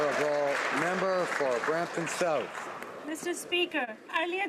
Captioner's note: some Applause